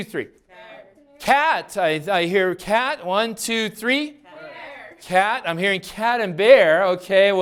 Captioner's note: class yells responses